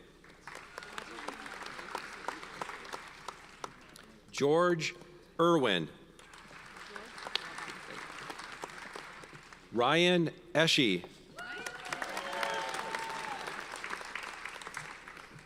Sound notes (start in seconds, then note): 0.2 audience applauds; 6.2 audience applauds; 11.4 audience cheers and applauds